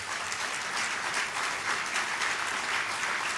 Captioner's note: applause